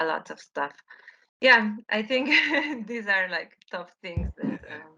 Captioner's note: laughs